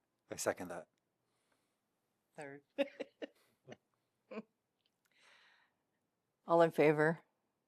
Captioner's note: laughter